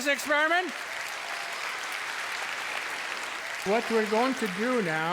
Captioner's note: cheers and applause